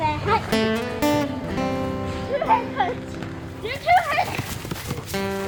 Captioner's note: children speaking amongst each other